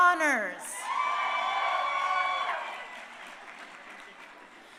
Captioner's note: crowd cheering